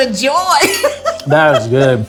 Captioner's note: group laughing